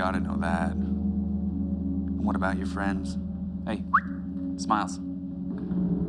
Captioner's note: whistles